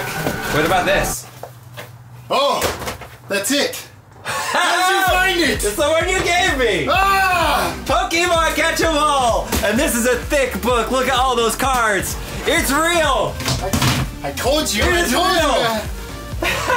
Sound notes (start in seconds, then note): 7.1 shouts